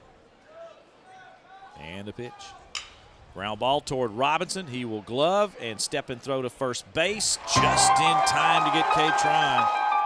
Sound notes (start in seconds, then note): 2.1 voiceover